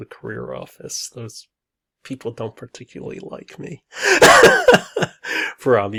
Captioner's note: laughs